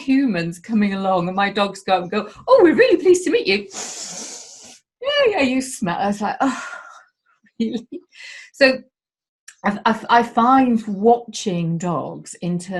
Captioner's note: sniiiifffff